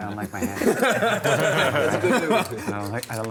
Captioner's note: laughter